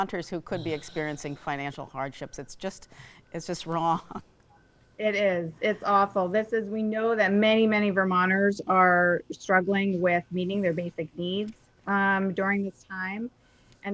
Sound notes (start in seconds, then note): 3.9 chuckles